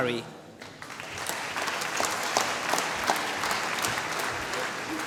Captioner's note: applause